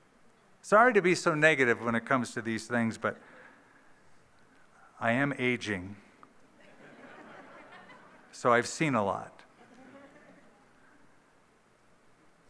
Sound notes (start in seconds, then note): 6.6 laughter